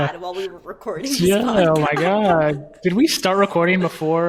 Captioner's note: laughing